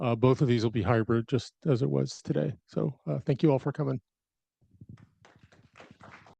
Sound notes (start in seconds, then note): 5.0 audience applauding